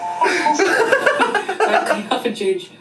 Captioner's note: laughs